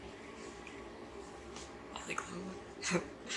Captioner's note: chuckles to self